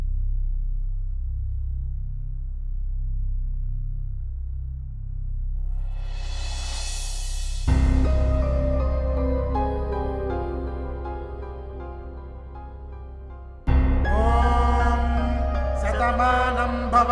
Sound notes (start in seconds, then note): 14.1 chanting